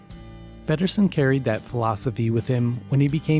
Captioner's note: voiceover